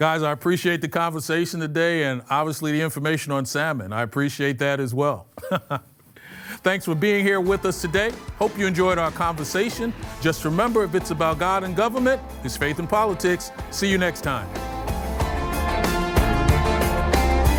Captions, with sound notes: Guys, I appreciate the conversation today and obviously the information on salmon. I appreciate that as well. [chuckles] Thanks for being here with us today. Hope you enjoyed our conversation. Just remember if it's about God and government, it's Faith and Politics. See you next time. [dramatic music playing]